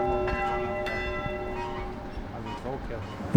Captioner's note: the bell fades